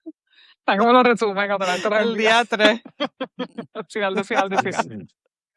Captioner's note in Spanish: risas